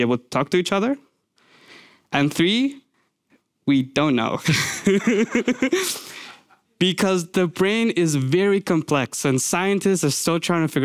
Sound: laughs

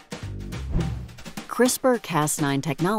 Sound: air whooshing

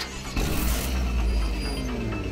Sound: car engine starts

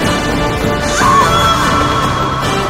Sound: woman screams

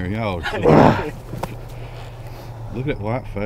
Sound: grunts

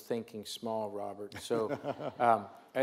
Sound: laughs

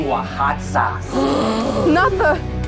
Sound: crowd gasps

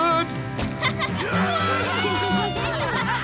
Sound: cheering

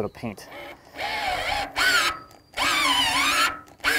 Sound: drill buzzing

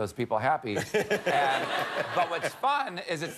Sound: laughter

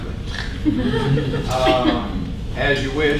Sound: laughing

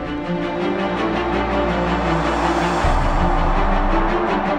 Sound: crowd cheers

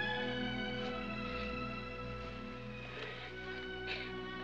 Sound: crying

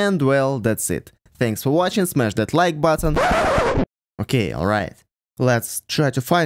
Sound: record scratch

